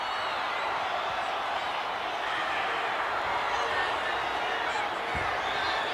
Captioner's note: audience cheering and chattering